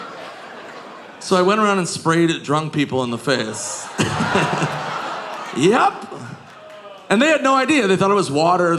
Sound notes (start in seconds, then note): 4.0 audience groaning